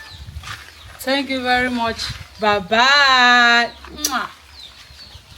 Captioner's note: kisses